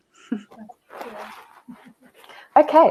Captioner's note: chuckles; talks faintly